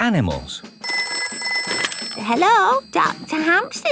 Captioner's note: ringing